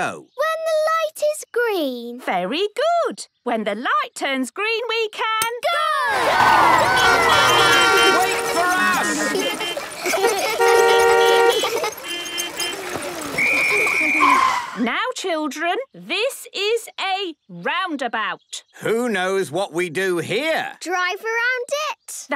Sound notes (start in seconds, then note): 7.4 beeping; 8.2 laughter; 9.8 beeping; 9.8 laughter; 13.2 whistle blowing